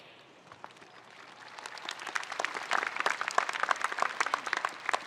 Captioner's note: spectators applauding